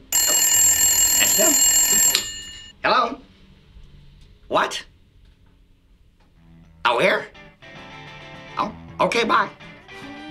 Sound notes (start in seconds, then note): 0.0 phone rings